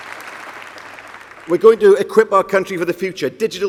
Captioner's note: applause